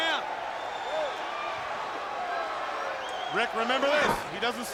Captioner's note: crowd clamoring